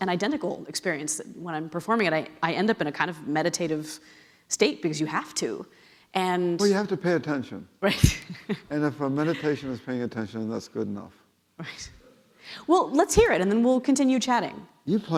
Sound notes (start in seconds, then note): 7.8 laughing